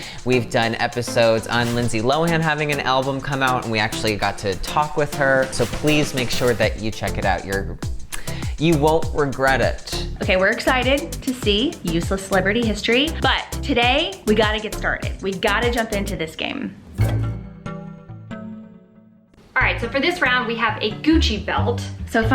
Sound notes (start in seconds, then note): 16.8 whoosh; 16.8 inquisitive music